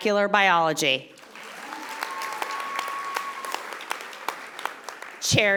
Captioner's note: audience applauding